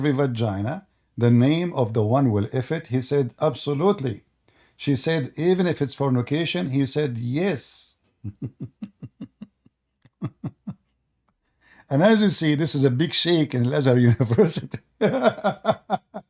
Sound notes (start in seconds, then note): 8.2 Ketawa